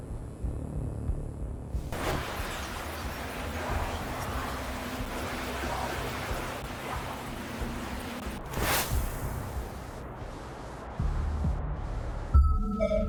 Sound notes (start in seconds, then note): 6.0 whooshing; 8.9 dramatic music